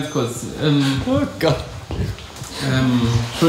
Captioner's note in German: lacht